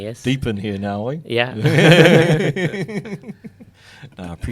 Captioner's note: laughs